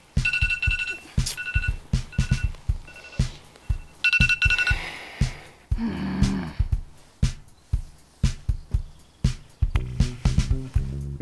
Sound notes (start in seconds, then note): 5.7 groans